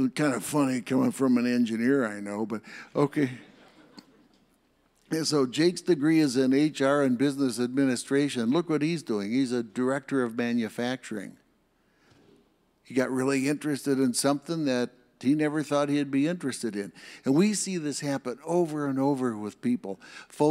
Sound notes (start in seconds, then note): 3.5 audience laughs